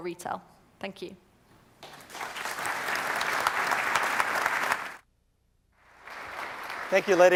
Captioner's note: applause